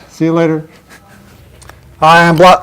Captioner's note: chuckle